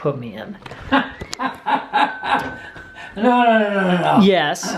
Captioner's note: laughing